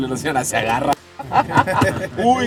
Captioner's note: laughter